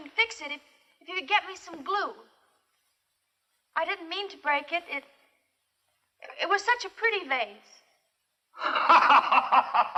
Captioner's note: laughter